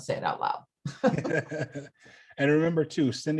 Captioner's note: both laugh